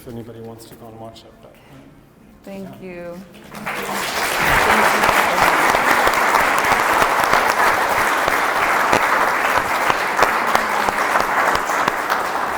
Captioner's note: clapping